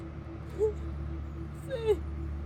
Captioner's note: Cassidy crying